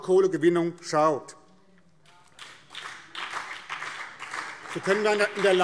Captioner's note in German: Beifall BÜNDNIS 90/DIE GRÜNEN